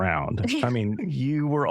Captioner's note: laughter